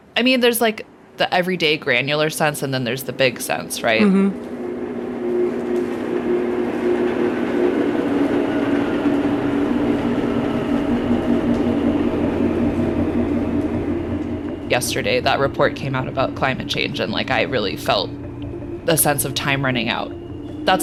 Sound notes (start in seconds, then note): 2.6 engine rumbling distantly; 6.4 engine rumbling intensifies